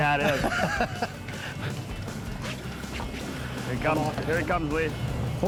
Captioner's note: laughing